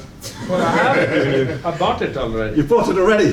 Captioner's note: laughter